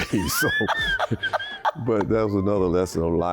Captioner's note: laughing